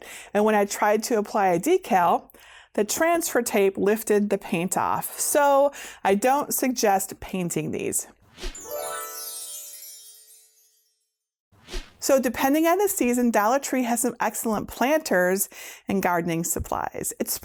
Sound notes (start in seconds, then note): 8.5 stars twinkling; 11.6 air whooshing